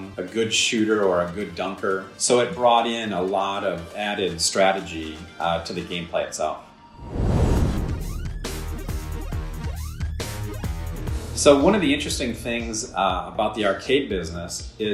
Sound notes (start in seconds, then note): 7.0 fire roaring; 7.5 intense electronic music